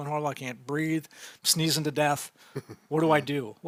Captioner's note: chuckling